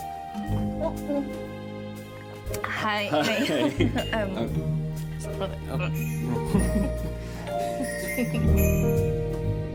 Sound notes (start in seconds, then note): 6.1 giggling awkwardly